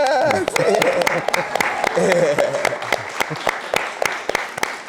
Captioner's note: audience applauding